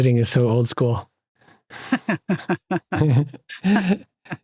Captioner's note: laughter